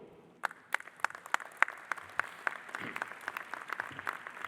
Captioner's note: audience applauding